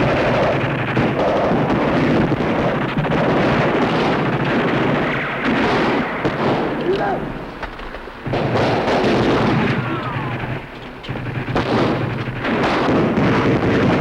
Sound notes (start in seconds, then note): 6.5 speaking japanese; 8.5 gunfire